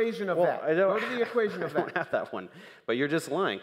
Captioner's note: laughing